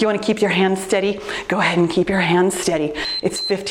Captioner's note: timer beeps